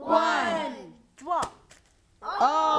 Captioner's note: plastic crackles